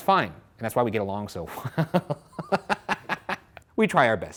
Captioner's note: laughs